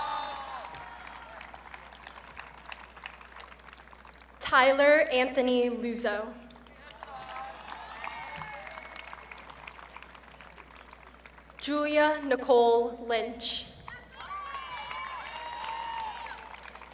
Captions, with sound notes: (audience cheering) Tyler Anthony Luzzo. (audience cheering) Julia Nicole Lynch. (audience cheering)